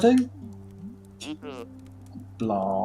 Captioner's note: scoffs